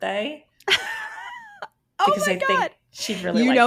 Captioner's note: laughs